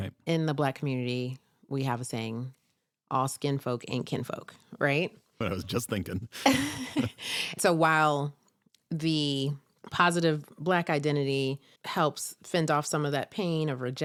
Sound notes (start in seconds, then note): 6.2 chuckles